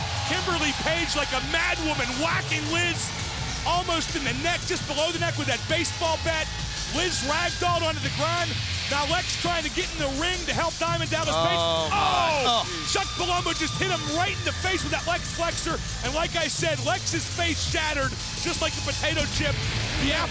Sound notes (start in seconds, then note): 11.5 group groaning